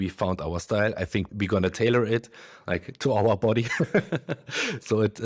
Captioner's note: laughs